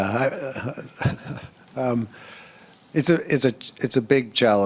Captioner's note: chuckles